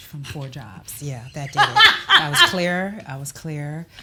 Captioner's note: laughs